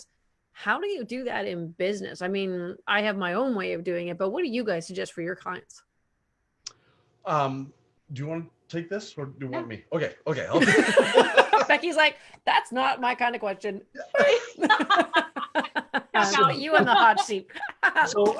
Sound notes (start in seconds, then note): 10.5 laughs; 14.0 laughs